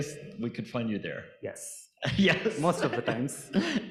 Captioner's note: laughs